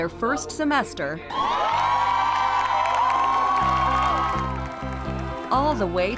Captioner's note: cheering